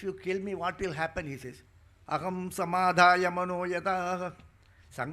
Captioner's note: speaking in Sanskrit